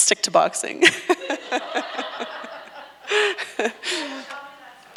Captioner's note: everyone laughs